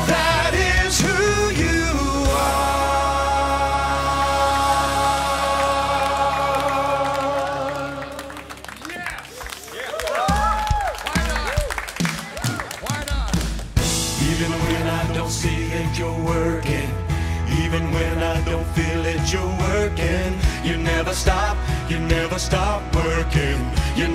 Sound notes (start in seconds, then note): 7.9 applause; 10.1 cheers and applause